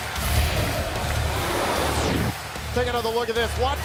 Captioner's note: crowd cheering